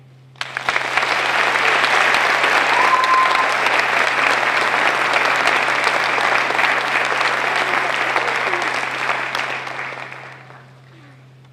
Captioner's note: applause